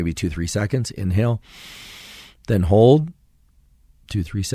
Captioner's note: inhales